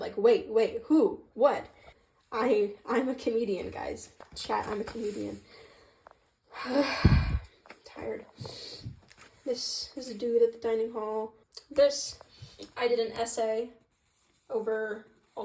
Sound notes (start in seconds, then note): 6.5 sigh; 8.3 sniffle